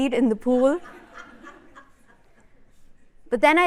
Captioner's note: laughter